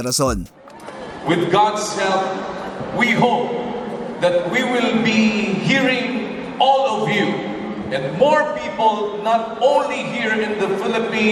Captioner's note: the voice behind whisper